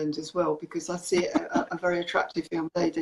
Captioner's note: laughs